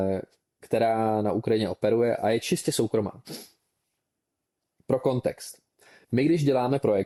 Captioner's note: sniffs